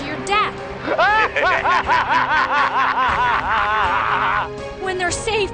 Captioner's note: laughing